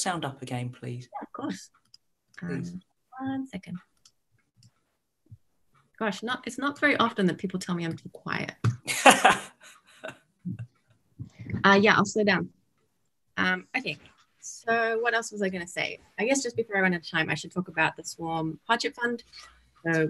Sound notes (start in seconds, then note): 8.8 laughs